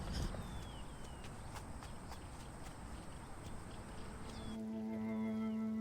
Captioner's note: footsteps tapping; somber music